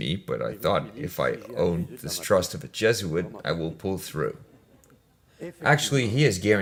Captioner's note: laughs